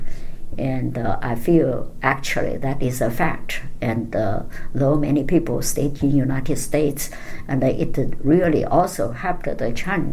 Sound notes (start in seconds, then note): none